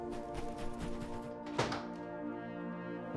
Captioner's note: soft music; door closes